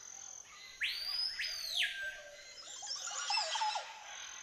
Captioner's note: whistling, chirping